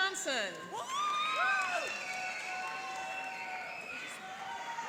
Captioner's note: cheering and applauding